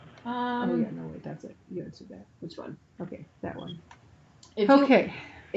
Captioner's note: indistinct chatter